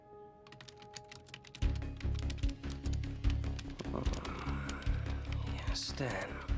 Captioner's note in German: tastaturklackern